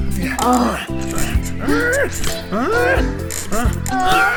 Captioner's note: both moaning